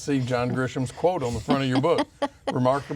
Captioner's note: laughs